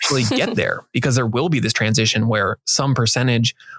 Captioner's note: laughing